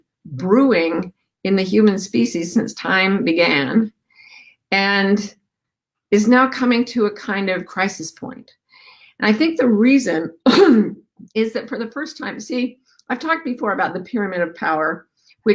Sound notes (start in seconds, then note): 10.4 coughs